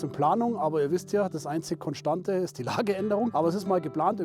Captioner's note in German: lacht